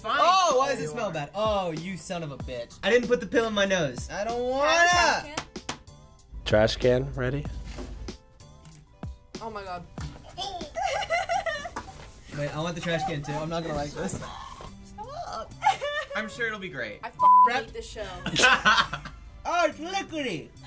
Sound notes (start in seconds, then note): 10.5 giggles; 18.3 snickers